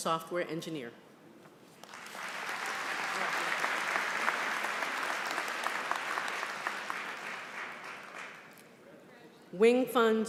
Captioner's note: applause